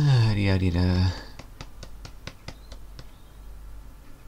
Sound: drumming fingers

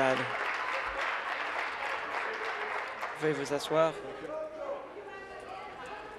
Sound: applause

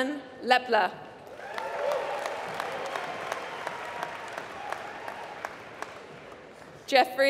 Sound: applause

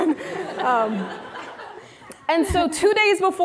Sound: audience laughing

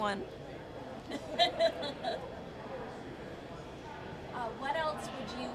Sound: laughs

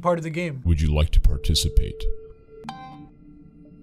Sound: voice-over

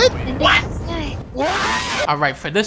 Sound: scream

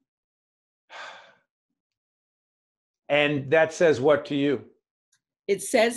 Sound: sigh

